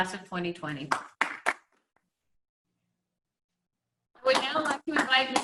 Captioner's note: clapping